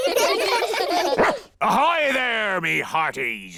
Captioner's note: all giggle; barks